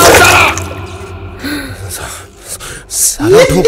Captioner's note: Zara whispering